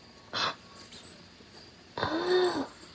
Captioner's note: gasp